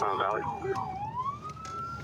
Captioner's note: sirens